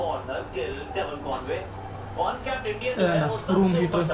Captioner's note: sounds on TV